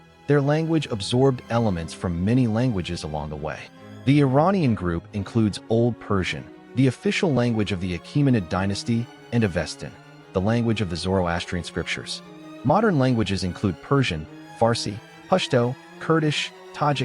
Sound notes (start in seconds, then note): 14.8 Farsi